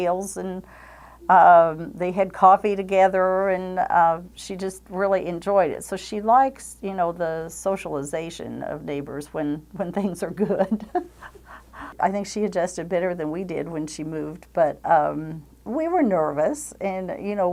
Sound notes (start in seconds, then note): 10.4 chuckles